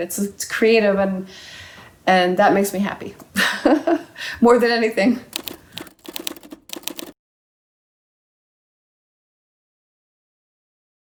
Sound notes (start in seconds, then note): 3.6 laughing; 5.3 computer keys clicking